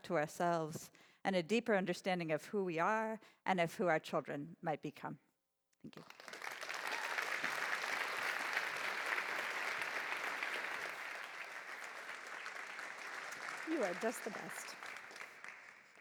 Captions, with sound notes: to ourselves and a deeper understanding of who we are and of who our children might become. [APPLAUSE] You are just the best.